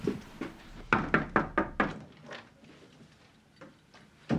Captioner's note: knocking at door